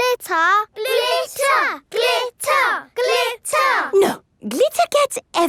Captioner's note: chanting